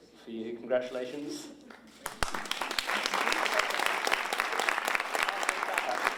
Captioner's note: applause